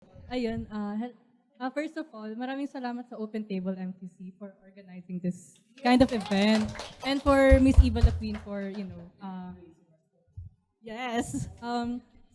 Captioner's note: applause